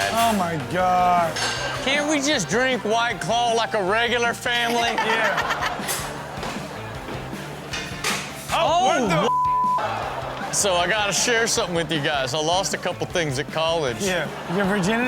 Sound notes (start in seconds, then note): 4.6 Chanel and audience laughing; 7.0 upbeat music; 9.8 audience laughing